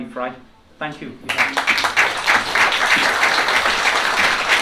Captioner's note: applause